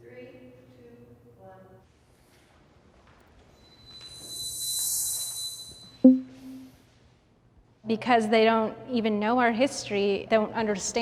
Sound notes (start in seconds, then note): 4.0 soft intense music; 6.0 text box pops